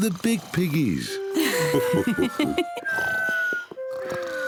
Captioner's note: mummy pig and daddy pig laugh; snoring continues